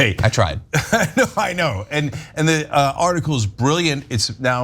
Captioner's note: laugh